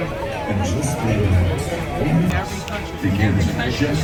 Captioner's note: crowd clamoring